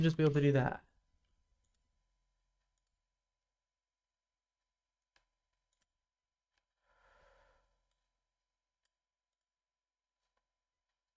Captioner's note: silence